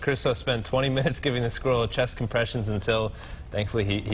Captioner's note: laughter